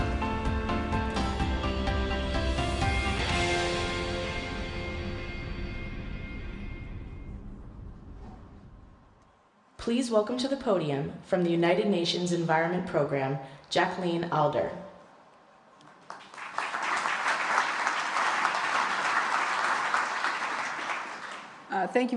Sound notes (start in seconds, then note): 15.8 applause